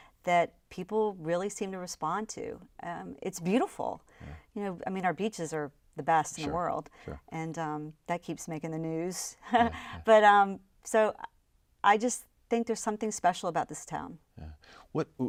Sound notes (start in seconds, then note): 9.5 laughs